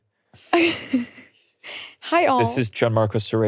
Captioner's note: laughing